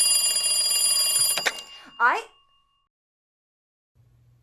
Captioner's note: phone rings